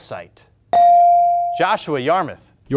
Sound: buzzer pings

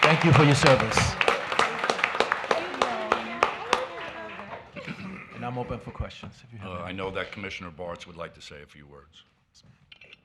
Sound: applause

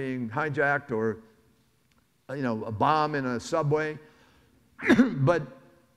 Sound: coughs

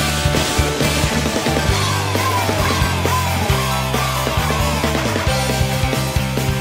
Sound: Harmony cheering while her clownfish is dying inside

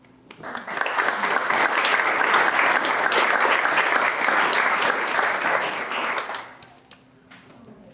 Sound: applause

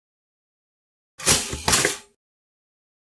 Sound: sound of toaster

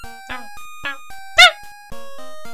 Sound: the sound of a dog getting kicked in the face

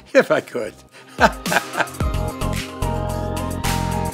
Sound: laughs

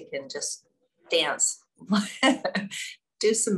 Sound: laughs

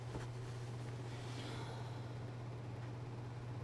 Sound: Marie sighs

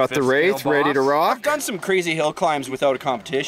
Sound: none

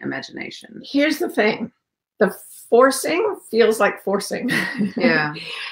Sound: laughs

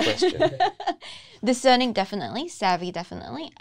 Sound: laughs

